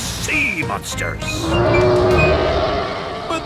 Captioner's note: roaring